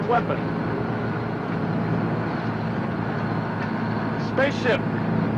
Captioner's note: engine whirring